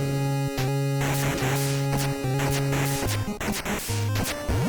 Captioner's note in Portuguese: game audio